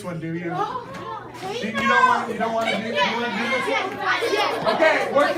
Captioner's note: positive chatter